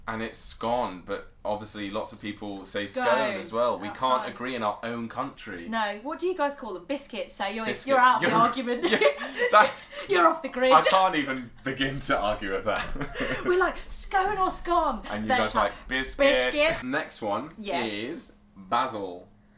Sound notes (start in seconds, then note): 8.1 laughter; 12.4 laughter